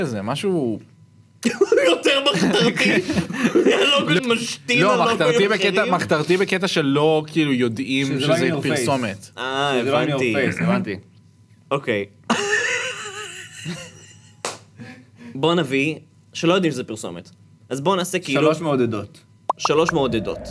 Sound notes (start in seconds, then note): 13.6 laughs